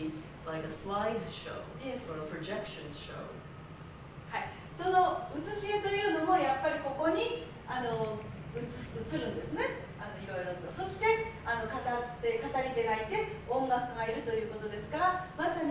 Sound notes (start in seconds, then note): 5.2 speaking Japanes